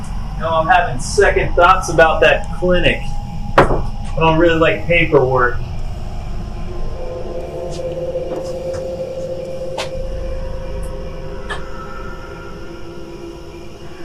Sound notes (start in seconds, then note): 0.3 eerie music, crickets; 4.1 crickets; 5.8 eerie music, crickets